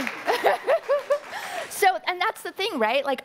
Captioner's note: audience applauding; laughing